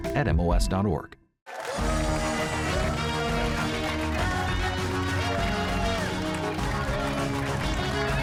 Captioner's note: cheers and applause